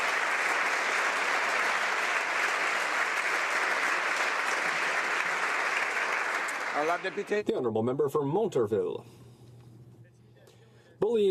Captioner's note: applause